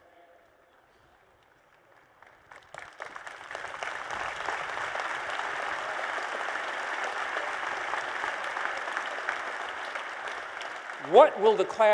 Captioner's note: applause